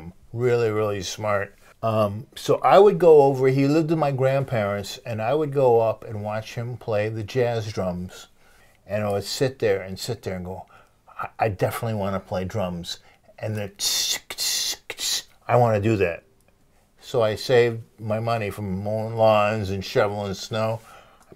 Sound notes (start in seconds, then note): 13.9 imitates jazz beat